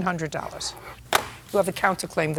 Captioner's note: pen scratches, slams